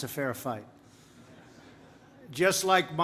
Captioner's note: laughter